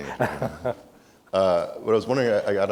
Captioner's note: laughs